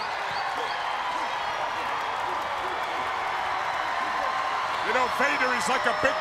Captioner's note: crowd cheering